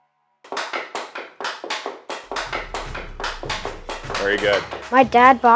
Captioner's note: hitting the puck